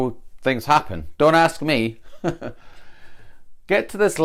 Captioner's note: ha, ha